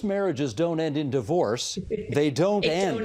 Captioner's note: laughing